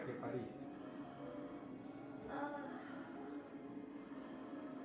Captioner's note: in foreign language